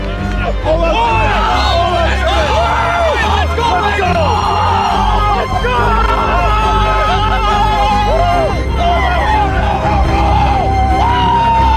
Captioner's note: shouts of encouragement